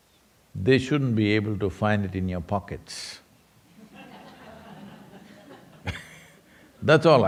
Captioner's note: laughter